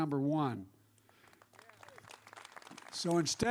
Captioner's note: applause